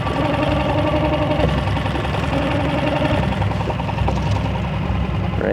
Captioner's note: boat engine roaring